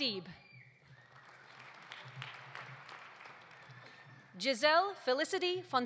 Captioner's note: audience applauding